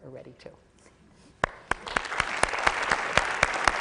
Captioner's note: applause